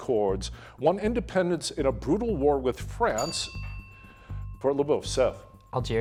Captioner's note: bell dinging